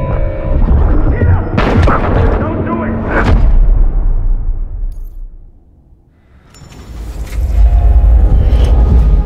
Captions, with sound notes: Get him! (Shot fired.) Don't do it!